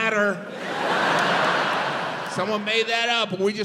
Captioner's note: audience laughs